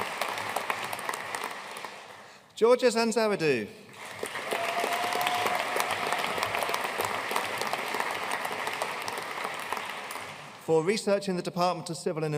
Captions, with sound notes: Georgia Sanxaridou. (AUDIENCE CHEERING AND APPLAUDING) For research in the Department of Civil